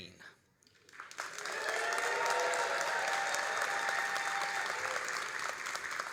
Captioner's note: all applauding and cheering